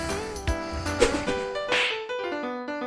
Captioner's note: batarang sound; smack!